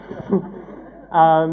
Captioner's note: laughter